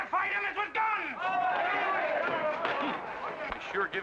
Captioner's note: crowd cheers